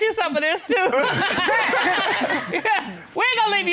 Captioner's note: all laugh